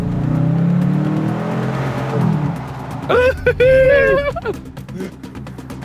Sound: engine races , both giggle

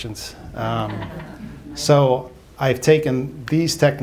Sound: laughter

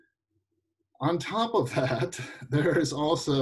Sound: giggling

